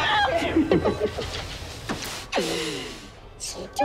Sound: malevolent laughter

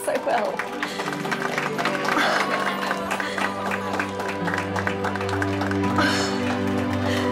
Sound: clapping, cheering

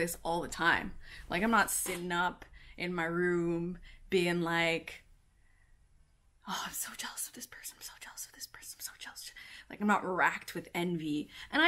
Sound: whispering: i'm so jealous of this person

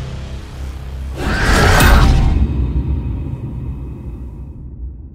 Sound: person screaming

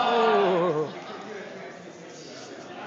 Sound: oo's, ah's, laughter

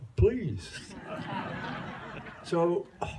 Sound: laughter

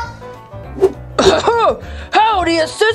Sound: Ralph clearing throat

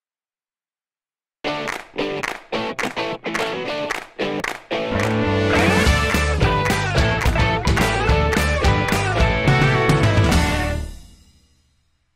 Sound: claps

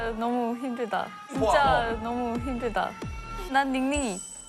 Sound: nervous

